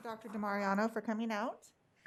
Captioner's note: applause